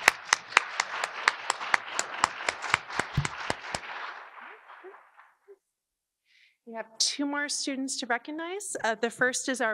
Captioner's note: audience Applause